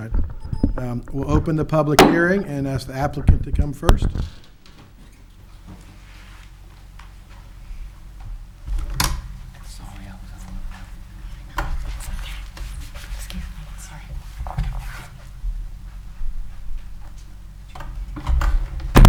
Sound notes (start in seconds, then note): 1.9 gavel taps; 11.3 speaking faintly